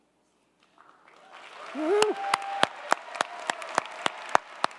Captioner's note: crowd cheering